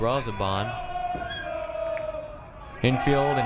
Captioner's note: crowd cheering